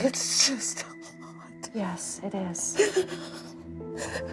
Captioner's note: sobs